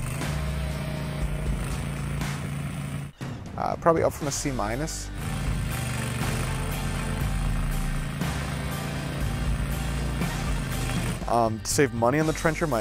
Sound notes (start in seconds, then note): 0.0 trencher revving